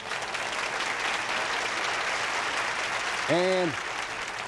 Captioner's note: applause